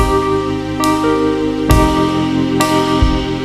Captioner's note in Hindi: none